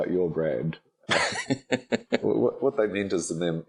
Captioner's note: laughing